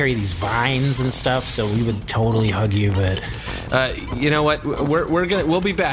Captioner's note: hesitant